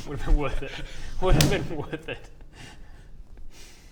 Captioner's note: clap